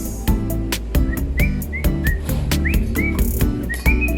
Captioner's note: whisteling our mixing song